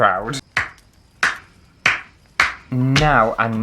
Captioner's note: slow Clap